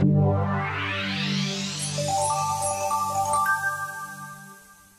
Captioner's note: bright electronic tones